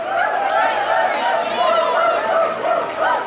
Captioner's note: cheering